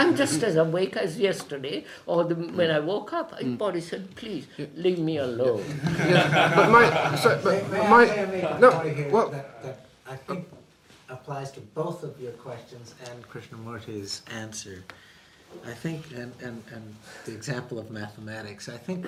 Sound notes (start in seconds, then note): 5.6 laughter